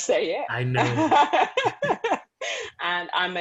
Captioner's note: laughter